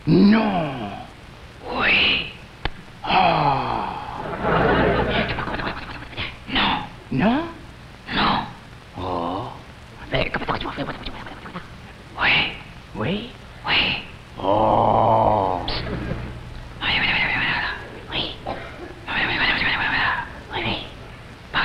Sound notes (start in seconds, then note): 4.1 crowd laughs; 5.3 whispers; 10.2 whispers; 16.8 man whispers; 19.2 man whispers